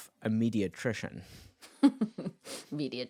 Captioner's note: chuckling